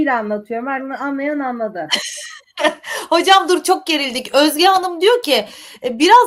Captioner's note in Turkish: kahkaha